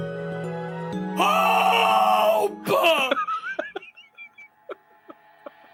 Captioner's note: laughs